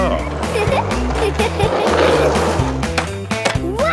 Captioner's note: giggles